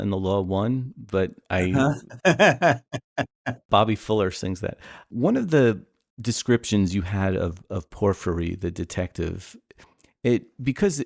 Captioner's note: laughter